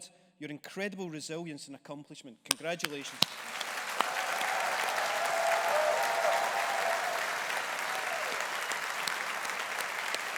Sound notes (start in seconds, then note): 2.9 audience applauding; 3.0 audience cheering